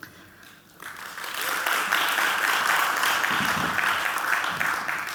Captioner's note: audience clapping